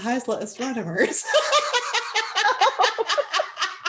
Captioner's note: laughter